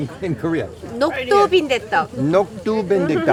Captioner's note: speaking in foreign language; Rick speaking in foreign language